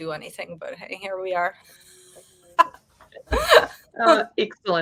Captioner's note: woman laughing